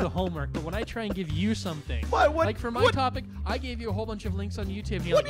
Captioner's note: indignant stammering